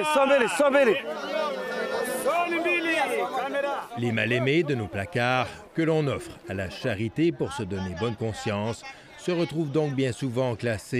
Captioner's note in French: cris de vente